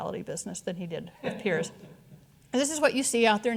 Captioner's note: audience chuckling